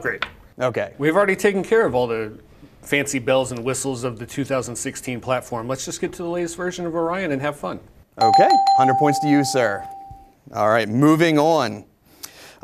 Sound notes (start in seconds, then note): 8.2 dings